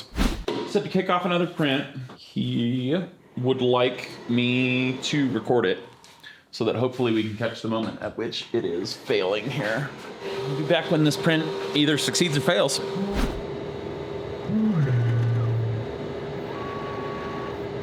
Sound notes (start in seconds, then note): 0.0 air whooshing; 13.0 air whooshing; 16.0 printer whirring